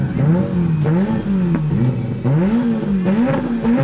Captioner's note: car revving